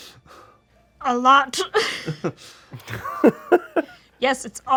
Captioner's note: laughs